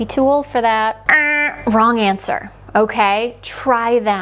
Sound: making a buzzer sound

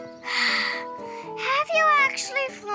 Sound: Honeycomb sighs

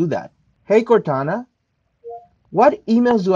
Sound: phone beeps

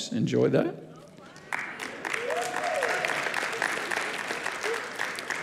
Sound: audience clapping

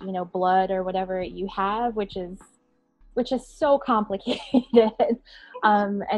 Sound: chuckling

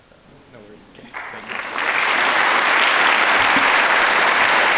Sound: audience clapping

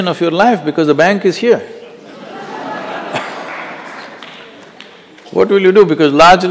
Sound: laughter

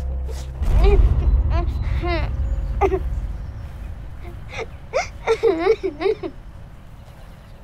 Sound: weeping; crying

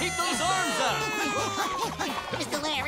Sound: booing, panting

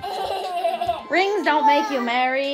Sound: laughing

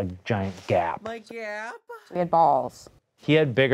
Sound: voiceover

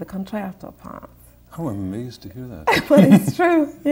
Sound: laughter

